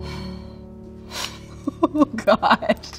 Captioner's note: laughing